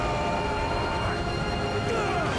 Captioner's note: grunting